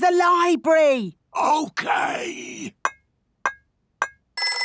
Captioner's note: whispering